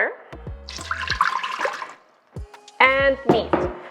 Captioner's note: pouring